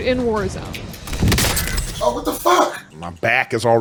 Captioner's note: bullet splattering